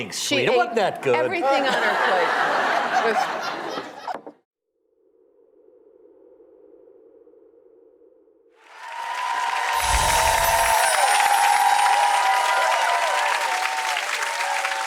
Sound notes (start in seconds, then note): 1.5 Rachael and audience laugh; 8.6 audience cheering